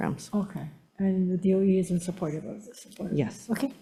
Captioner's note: faintly speaks